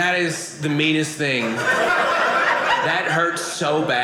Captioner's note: audience laughing